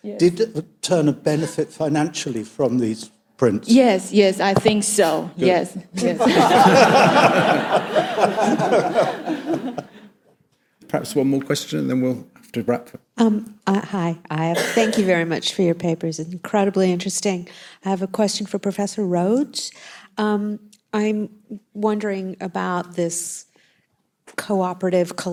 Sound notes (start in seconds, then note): 6.0 audience laughs